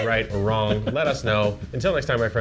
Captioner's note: laughs